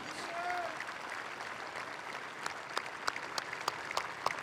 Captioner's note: applause